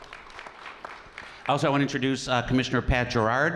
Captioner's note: applause